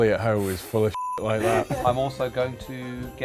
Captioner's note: beep